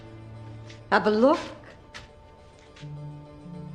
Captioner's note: speaking in Hebrew